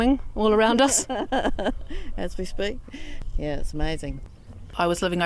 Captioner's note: laughing